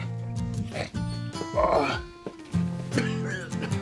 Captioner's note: GROANlNG